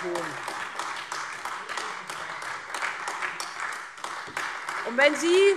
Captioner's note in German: Beifall Freie Demokraten und AfD